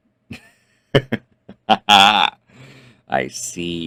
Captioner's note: speaker laughs